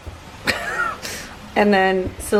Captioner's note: laughing